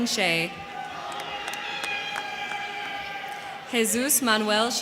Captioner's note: crowd cheering; crowd clapping